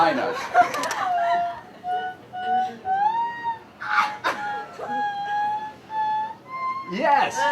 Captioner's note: laughter